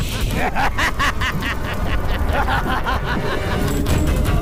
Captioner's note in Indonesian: tertawa